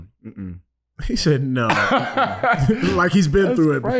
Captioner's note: laughing